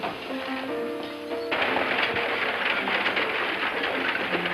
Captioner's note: wheels clattering